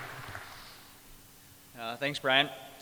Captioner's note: crowd applauds